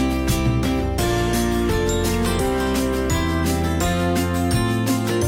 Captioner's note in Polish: dzwonek